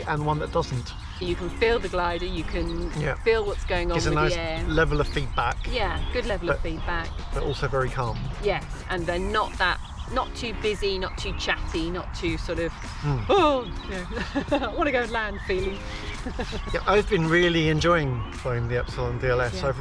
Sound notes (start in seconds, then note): 13.2 panicking; 13.9 laughs